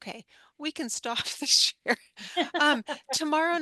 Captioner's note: both laugh